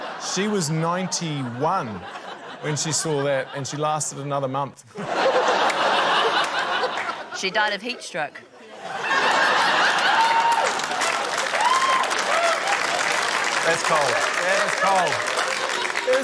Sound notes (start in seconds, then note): 0.0 laughter; 4.9 laughter; 9.6 laughter, applause